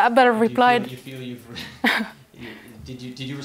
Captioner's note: laugh